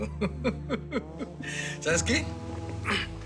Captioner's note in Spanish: Risas